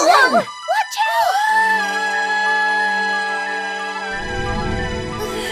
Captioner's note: screaming